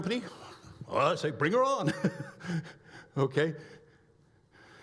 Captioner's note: laughs